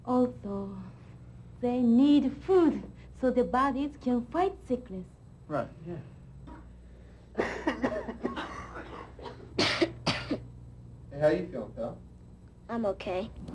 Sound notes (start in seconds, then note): 7.4 sick people coughing; 9.5 coughs